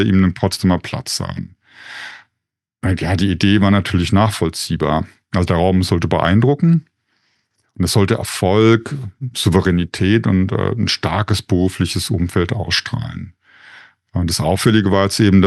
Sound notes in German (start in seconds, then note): 8.8 räuspern